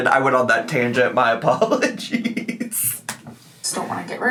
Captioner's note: laughs